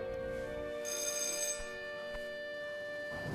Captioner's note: bell rings